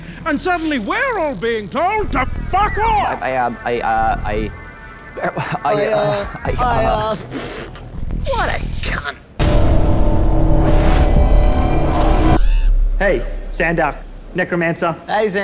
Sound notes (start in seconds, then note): 4.3 stutters; 7.3 spits; 9.4 dramatic sting